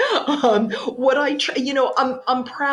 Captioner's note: laughs